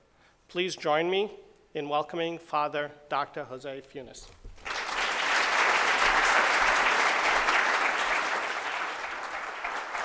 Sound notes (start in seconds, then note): 4.5 applause